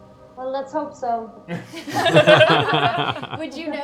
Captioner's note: laughter